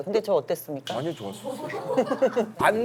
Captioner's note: hahaha